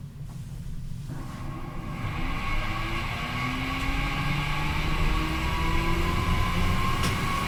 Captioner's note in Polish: dźwięk ogrzewania kabiny